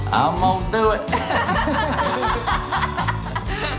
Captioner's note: laughing